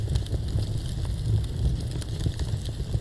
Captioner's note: fire crackling; fire crackling louder